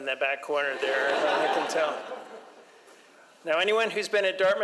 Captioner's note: audience laughs